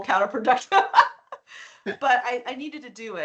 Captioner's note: laughing